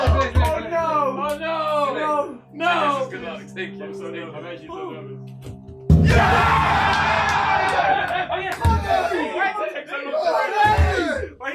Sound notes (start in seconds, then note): 0.2 all chattering; 5.9 all cheering; 8.0 all chattering